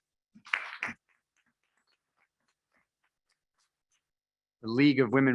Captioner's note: members clapping